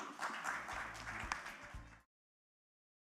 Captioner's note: applause